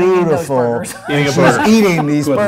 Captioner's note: laughs